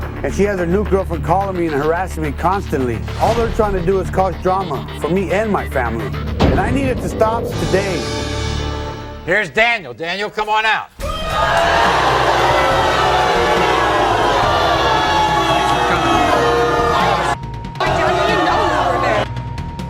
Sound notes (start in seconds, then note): 11.0 audience booing; 11.0 audience yelling